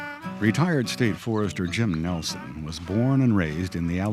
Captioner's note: voiceover